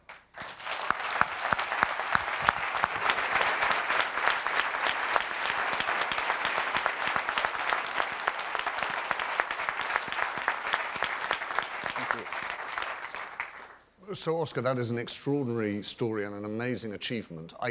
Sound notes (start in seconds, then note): 2.7 applause